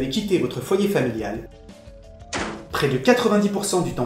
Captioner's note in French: porte qui claque